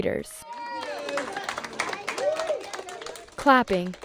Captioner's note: applause